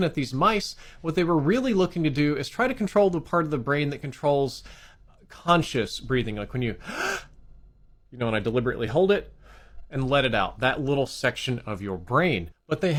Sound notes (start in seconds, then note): 6.8 gasps